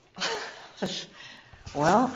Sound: laughing

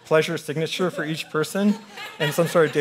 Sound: audience laughing

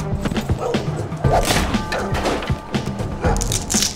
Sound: dogs barking

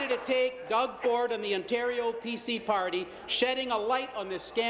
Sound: applause

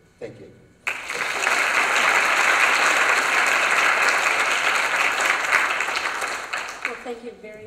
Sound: applause

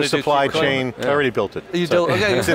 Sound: laughing

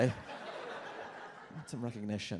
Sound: audience laughs

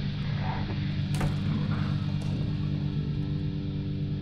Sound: door closes

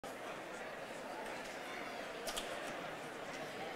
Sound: crowd chattering

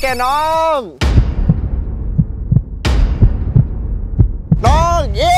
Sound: heart beating

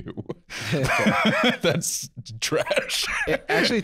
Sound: laughing

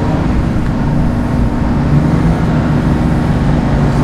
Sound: boat roars

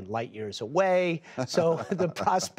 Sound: laughter

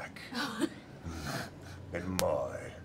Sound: laughter

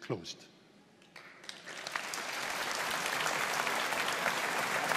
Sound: audience applauding

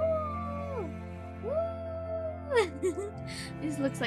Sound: giggles

